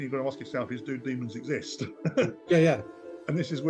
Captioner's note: chuckling